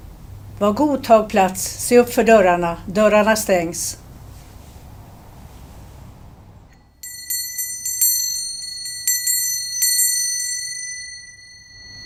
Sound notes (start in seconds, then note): 7.0 sound of a jingle bell